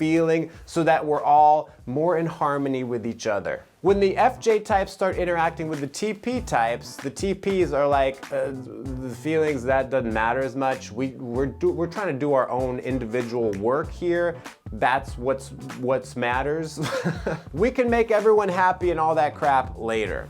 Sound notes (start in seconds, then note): 16.8 giggles